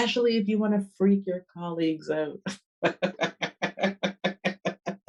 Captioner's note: laughs